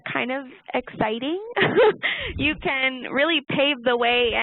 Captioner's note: laughing